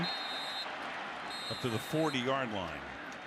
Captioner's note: whistle